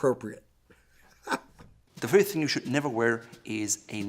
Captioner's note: laughs